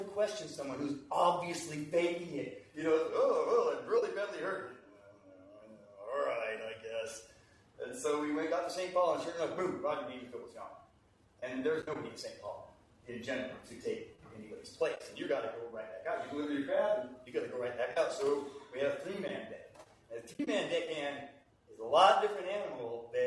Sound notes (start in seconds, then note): 4.8 grumbling